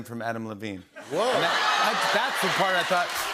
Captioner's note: cheers and laughter